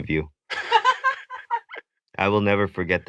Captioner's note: chuckles; laughs